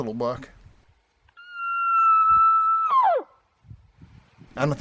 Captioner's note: hunter Bull Call